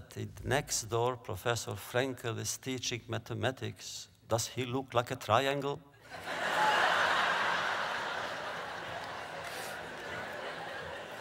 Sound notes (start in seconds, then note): 8.8 laughter